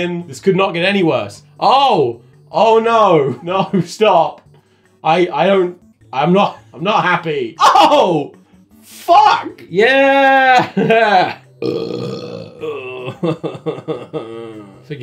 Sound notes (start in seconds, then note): 11.5 belch; 12.8 sad laugh